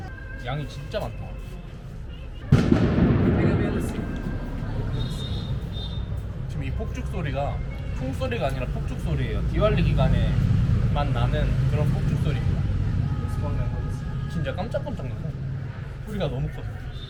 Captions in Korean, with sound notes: 양이 진짜 많다. [24시간 울려 퍼지는 디왈리 기간 폭죽 소리] 지금 이 폭죽 소리가 총 소리가 아니라 폭죽 소리에요. 디왈리 기간에만 나는 그런 폭죽 소리 입니다. 진짜 깜짝 깜짝 놀래 소리가 너무 커서.